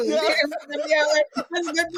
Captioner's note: laughing